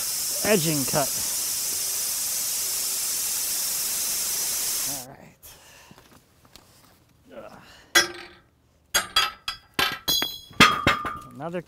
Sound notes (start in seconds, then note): 1.4 machine sawing; 9.0 metal clattering